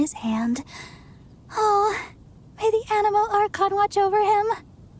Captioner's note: sigh